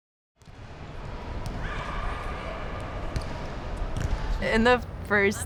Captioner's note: ball bouncing